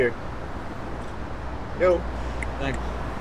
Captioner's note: snaps fingers